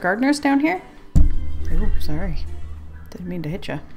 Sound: bumps mic

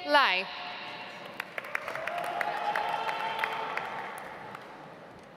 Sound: audience applauds

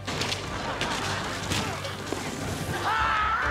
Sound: laughing; screaming

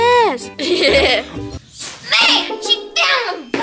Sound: chuckling

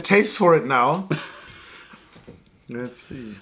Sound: laughter

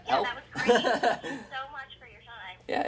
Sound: laughing

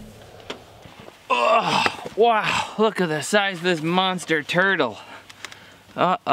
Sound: groans

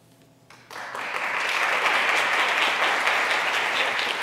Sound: crowd applause

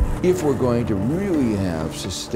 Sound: air swooshing; rockets firing

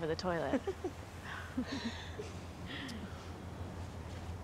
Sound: chuckles

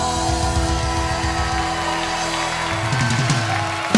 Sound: crowd cheering and applauding; drum rolling

